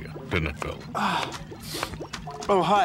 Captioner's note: sniffs